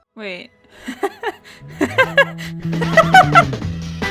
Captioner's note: laughter